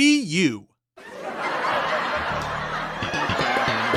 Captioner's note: audience Laughs